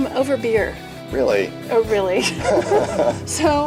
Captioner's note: laughs